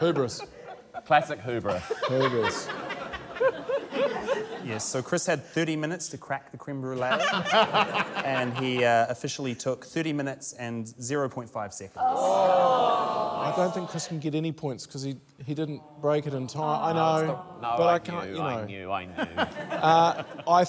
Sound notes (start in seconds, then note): 7.0 laughter; 12.0 audience groans